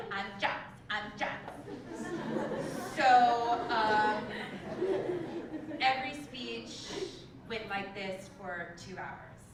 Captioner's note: laugh